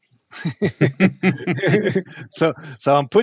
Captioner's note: chuckling